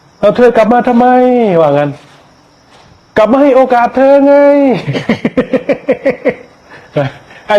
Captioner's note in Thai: เสียงหัวเราะ